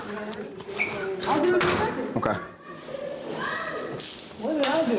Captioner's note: indistinct chatter